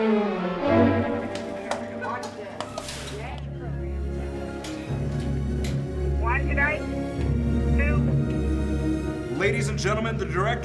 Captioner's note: popcorn being popped